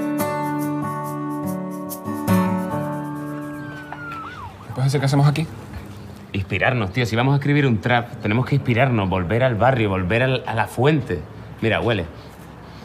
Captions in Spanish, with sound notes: (Sirenas de policía) ¿Me puedes decir qué hacemos aquí? Inspirarnos, tío. Si vamos a escribir un trap, tenemos que inspirarnos, volver al barrio, volver a la fuente. Mira, huele...